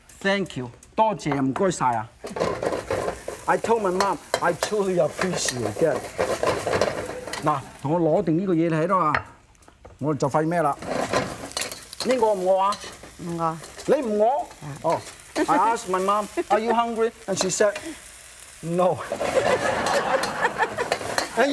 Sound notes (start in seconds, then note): 1.2 foreign language; 9.0 foreign language; 19.2 audience laughing